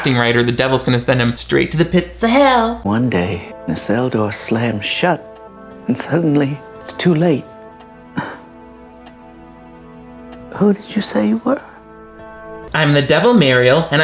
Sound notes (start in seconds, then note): 8.7 clock ticking